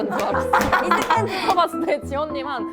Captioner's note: A sudden indie band cheer